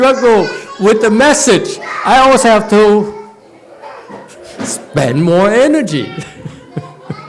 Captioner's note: laughs